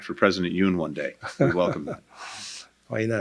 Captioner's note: laughter